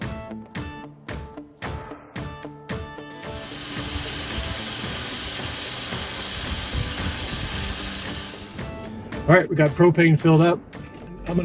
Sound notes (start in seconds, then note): 0.1 upbeat music continues; 3.2 gas hissing